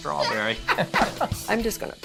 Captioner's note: both laugh